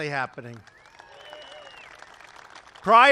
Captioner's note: applause